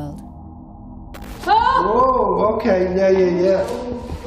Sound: shouts

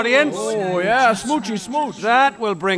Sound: murmurs or approval

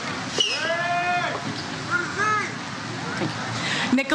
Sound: audience cheers

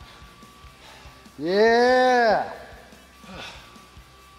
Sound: laugh

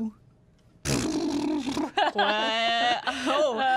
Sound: sputtering, laughing

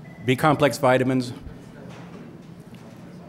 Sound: phone ringing

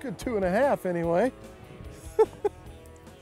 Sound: laughs

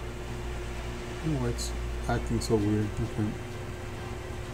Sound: speaking faintly

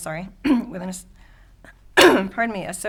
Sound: clears throat

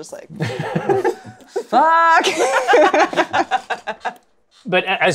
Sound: laughs

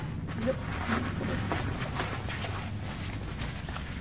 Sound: rustling

